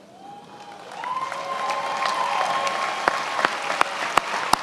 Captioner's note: attendees applauding